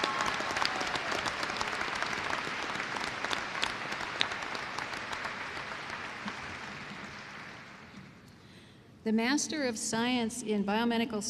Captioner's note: applause